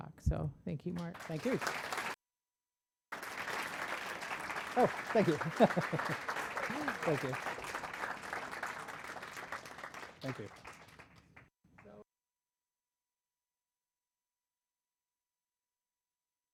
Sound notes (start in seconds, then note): 3.1 applause; 4.6 laughs